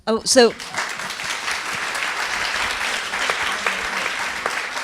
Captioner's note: applause